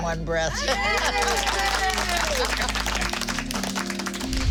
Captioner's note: all cheer